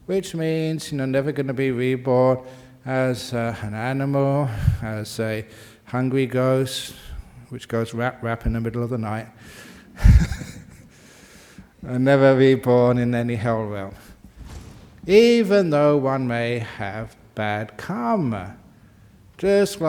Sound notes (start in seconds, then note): 10.0 laughs